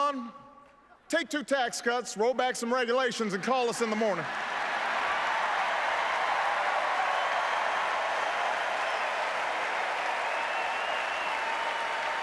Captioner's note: applause